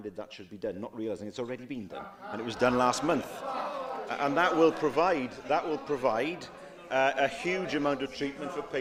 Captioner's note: laughter